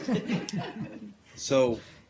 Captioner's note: laughter